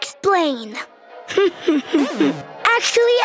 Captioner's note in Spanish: risas